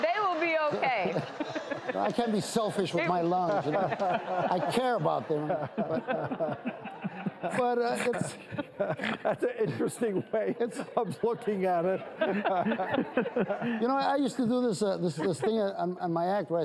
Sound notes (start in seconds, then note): 6.2 more laughter